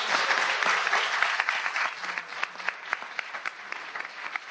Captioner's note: audience applauds